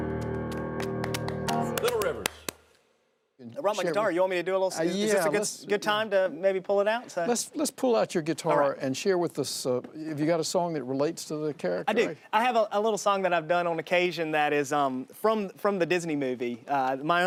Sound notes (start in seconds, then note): 3.2 and woman clapping